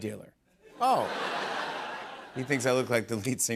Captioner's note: laughter